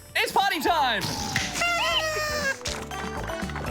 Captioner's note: honks party horn